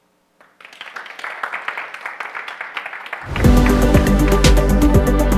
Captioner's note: audience applauding